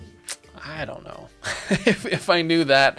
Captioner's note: laughs